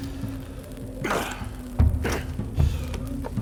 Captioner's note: fire Crackles; man grunts